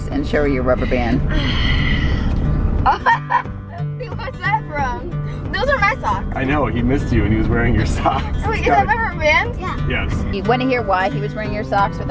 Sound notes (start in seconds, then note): 2.8 laughing